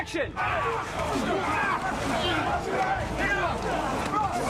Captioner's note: all grunting